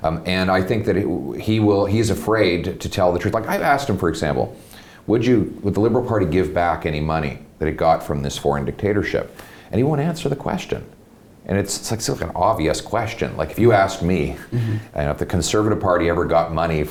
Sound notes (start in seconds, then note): 14.4 chuckles